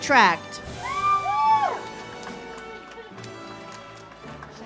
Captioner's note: audience cheers